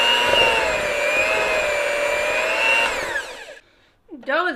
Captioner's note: mixer stirring